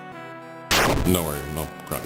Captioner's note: calm music; game buzzes